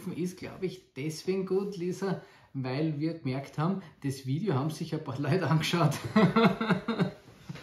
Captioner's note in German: lacht